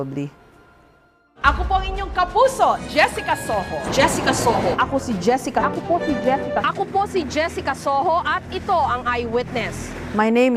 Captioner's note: speaking in foreign language